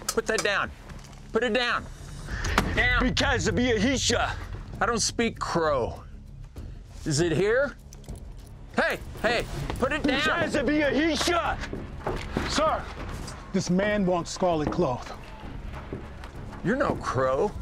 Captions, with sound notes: HEY, PUT THAT DOWN. PUT IT DOWN! [SPEAKING CROW LANGUAGE, SHOUTING] I DON'T SPEAK CROW! IS IT HERE? HEY, HEY PUT IT DOWN! [SPEAKING CROW LANGUAGE, SHOUTING] SIR, THIS MAN WANTS SCARLET CLOTH.